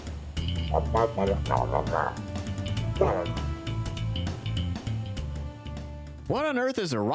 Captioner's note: cog grumbles